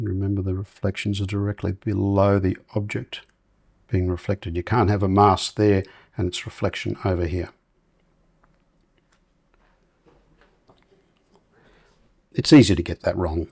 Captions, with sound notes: Remember the reflections are directly below the object being reflected. You can't have a mask there, and it's reflection over here. [silence] It's easy to get that wrong.